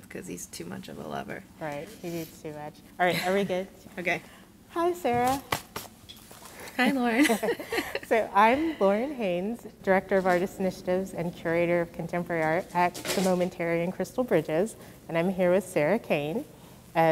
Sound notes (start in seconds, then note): 6.6 chuckles